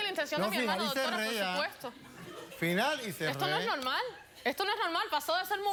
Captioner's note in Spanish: risas del público